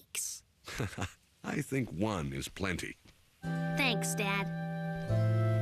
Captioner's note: laugh